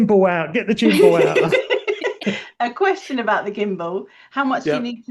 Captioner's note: laughs